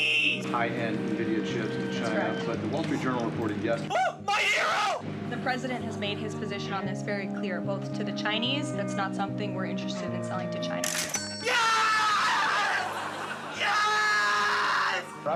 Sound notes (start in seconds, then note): 10.8 cash register dings; 12.4 studio audience laughs